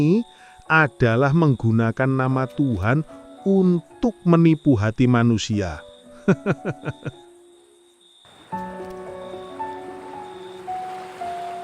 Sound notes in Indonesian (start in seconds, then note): 6.2 tertawa